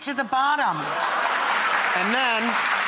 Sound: applause

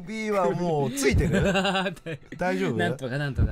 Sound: laughs

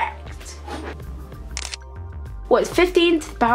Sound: camera shutter clicks

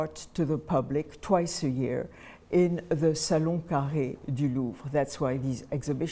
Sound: french

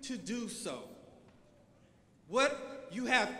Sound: none

